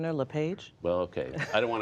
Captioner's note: laughter